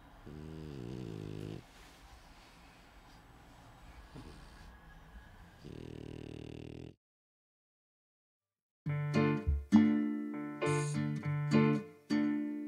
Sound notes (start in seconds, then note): 0.2 Helga snores; 5.5 Helga snores